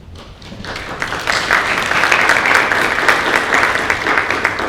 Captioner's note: audience applauding